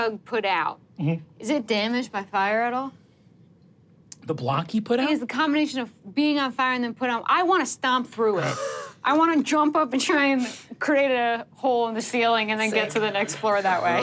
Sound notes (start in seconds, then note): 8.6 chuckles